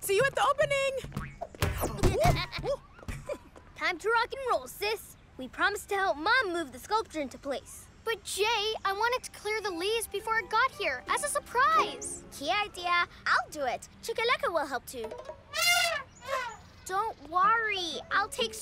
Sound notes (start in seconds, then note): 1.8 giggling; 15.4 trumpets